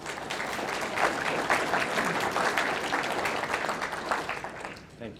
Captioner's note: audience applauding